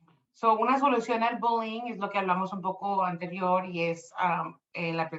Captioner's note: speaking Spanish